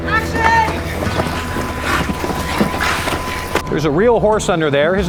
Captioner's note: footsteps Running